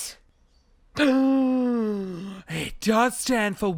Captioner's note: gasps